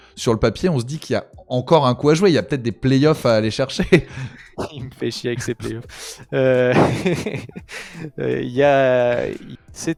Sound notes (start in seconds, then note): 4.1 laughs